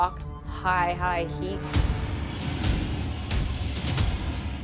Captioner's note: fire whooshes